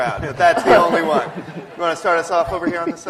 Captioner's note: laughter